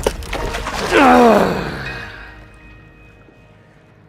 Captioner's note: splashing; grunting